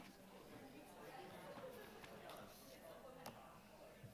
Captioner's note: attendees chattering